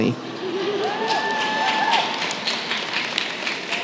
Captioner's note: cheering